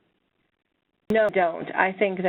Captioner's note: voiceover